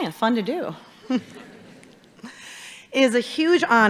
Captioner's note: audience chuckling